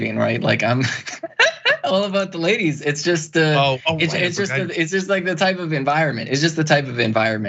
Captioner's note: laugh